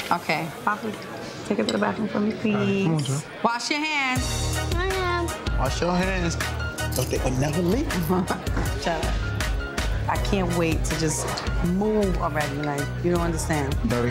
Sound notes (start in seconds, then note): 8.4 chuckles